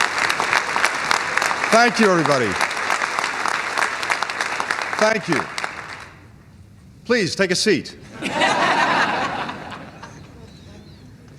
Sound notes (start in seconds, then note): 3.1 applause; 8.1 laughter